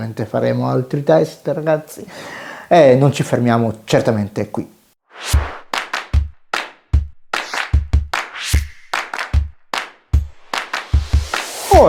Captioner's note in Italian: Applauso